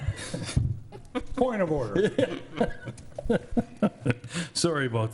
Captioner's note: people laughing